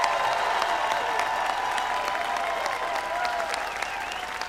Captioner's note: cheers and applause